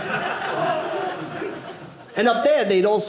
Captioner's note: audience laughing